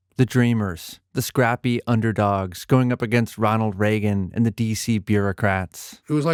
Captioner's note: none